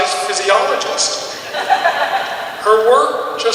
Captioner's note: audience chuckles